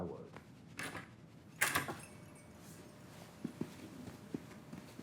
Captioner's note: door clicking